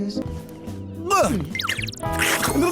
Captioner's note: gulp; unnecessarily violent tongue noises